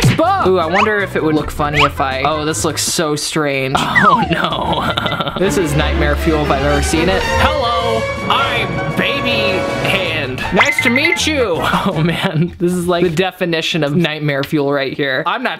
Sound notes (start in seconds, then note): 3.7 laughing; 7.7 talking as baby